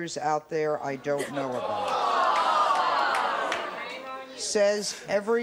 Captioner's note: audience jeers